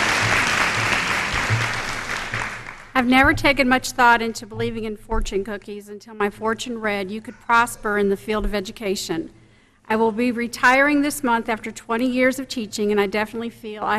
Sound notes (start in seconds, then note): 3.3 applause